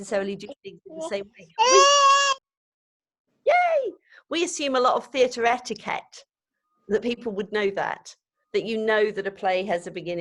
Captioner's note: baby cries